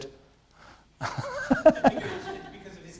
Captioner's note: laughter